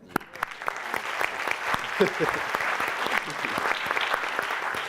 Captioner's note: audience clapping